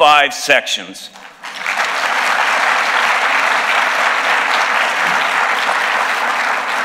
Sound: applause

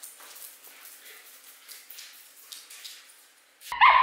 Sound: trot trot

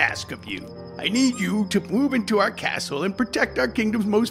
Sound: squeaky toy sound

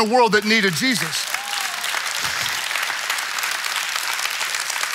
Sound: congregation clapping

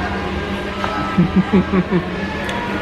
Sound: laughing

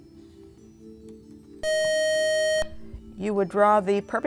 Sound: buzz

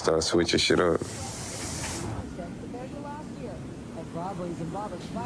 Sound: TV chattering

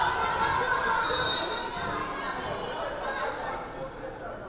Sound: whistle blaring

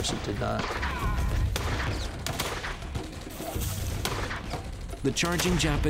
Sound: gunshots

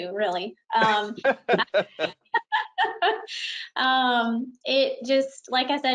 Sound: laughing

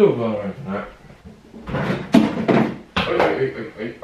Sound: crashing

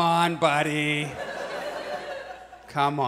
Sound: audience laughs

